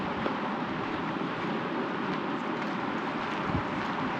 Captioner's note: water rushing